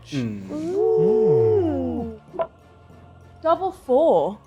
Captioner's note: group ooooo